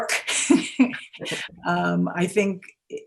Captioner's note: laughing